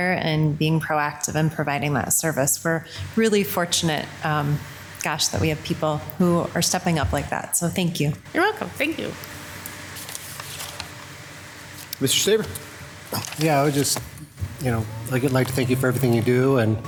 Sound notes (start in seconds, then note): 10.7 speaking faintly